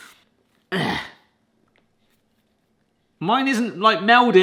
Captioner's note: grunts